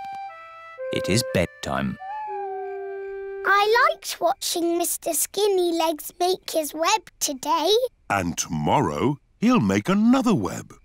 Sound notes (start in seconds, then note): 1.8 owl hoots